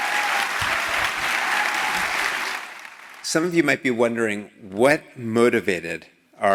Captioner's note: applause